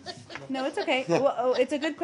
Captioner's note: laughter